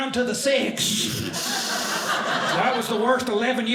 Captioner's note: audience laughing